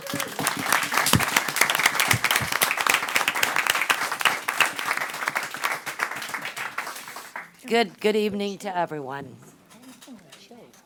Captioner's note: applause